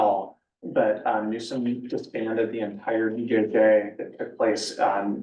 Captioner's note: muffled voice